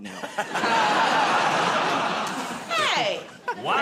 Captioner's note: laughter